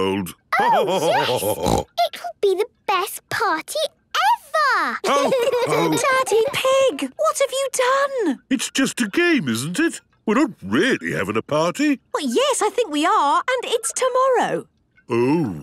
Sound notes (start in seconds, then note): 0.3 laughter and snorting; 5.0 laughter